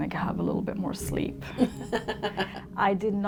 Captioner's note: laughing